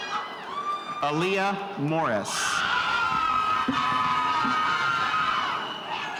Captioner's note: spectators cheering